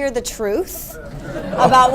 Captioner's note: laughter